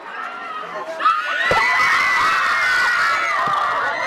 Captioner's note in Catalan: xiscles forts